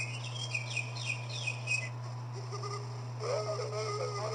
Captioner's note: bird Chirping; owl Hooting